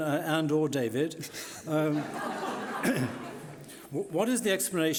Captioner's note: laughing